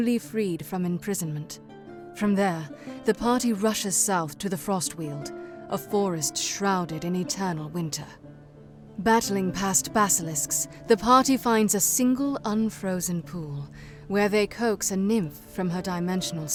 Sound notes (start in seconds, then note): none